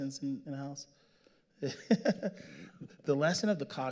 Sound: laughing

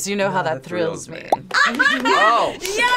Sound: laughs

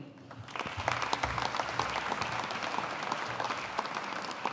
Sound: audience applauding

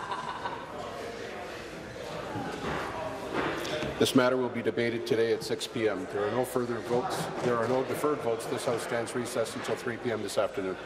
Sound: conversation din

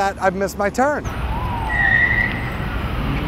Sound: tires screech

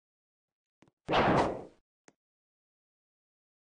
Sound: final sword noise

